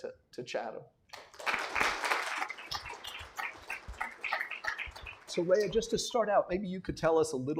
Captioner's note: applause